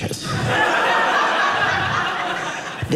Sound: audience laughing

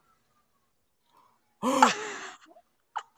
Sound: gasp

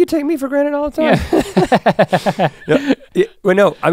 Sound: chuckles

